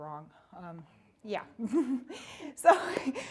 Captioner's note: chuckling